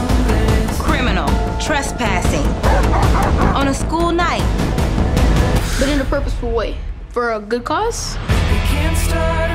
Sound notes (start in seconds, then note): 2.6 dogs barking